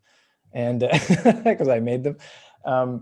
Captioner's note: laughs